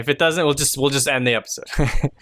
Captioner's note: chuckles